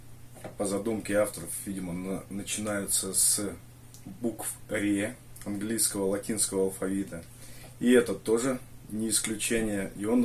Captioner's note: Latin